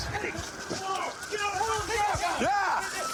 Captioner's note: shouting